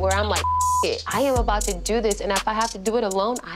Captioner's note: beep